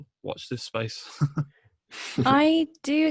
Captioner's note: laughs